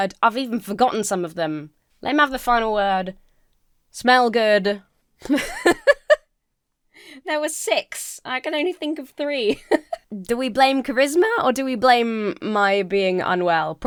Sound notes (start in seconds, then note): 5.2 laughs